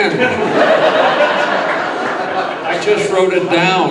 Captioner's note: audience laughing